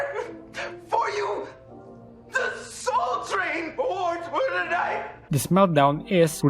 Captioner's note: crying